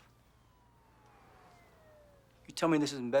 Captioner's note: siren wailing